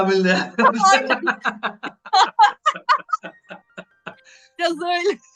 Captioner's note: laugh